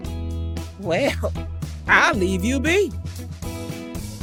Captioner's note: chuckles